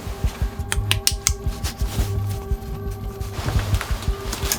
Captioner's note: clasps clipping